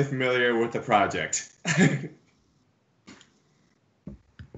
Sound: laughs

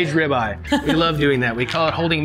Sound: laughter

